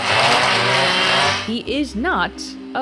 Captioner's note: power tool buzzing